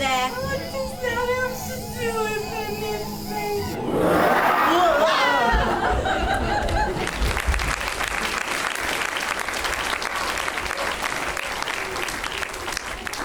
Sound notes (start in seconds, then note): 3.5 “bear” SFX